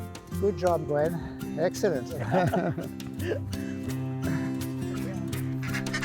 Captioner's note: both laugh